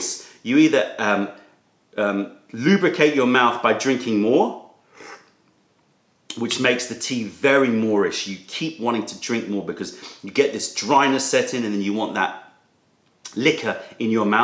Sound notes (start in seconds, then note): 4.9 sips tea